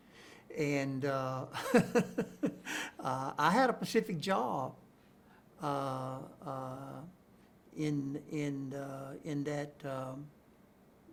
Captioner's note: chuckles